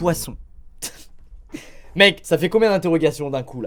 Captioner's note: laughs